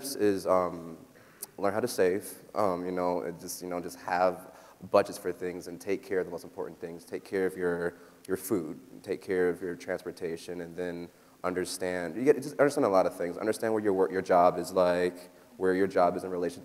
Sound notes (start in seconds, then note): none